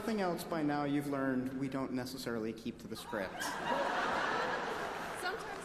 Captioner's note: applause